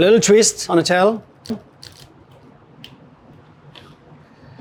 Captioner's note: shell cracking